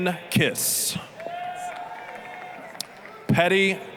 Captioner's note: applause, cheering